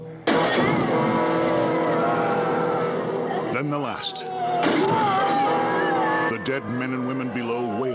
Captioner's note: frightened groaning